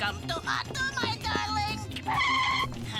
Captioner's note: tires screech